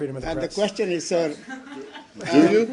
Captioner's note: laughter